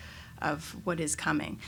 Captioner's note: none